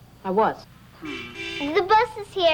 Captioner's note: horn honks